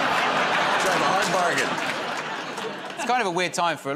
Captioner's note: laughter